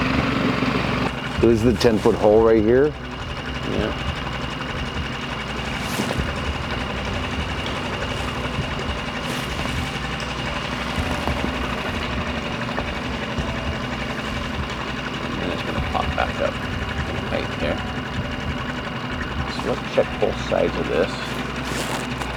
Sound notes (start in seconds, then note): 5.3 brooding music; 5.3 engine rumbling